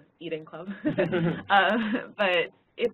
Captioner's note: laugh